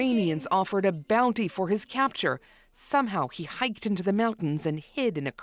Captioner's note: speaking alternate language